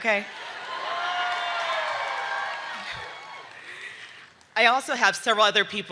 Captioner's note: audience cheering